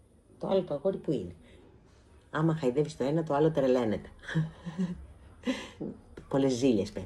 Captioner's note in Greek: γέλια